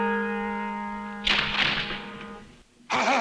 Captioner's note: dramatic music; guns clattering; matadors speaking in Spanish